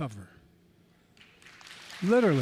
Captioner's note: applause